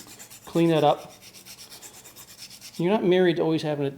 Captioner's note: file scraping